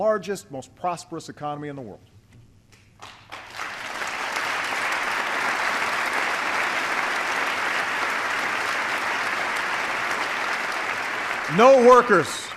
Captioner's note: applause